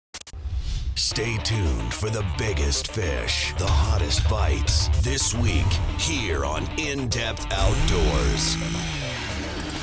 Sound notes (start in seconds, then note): 2.1 voiceover